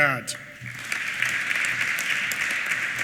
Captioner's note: applause